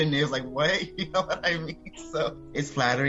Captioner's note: laughing